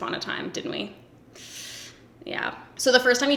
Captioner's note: sharp inhale